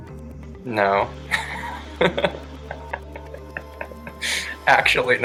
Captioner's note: chuckles